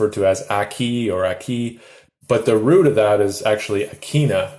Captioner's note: speaks in Anishinabekmowin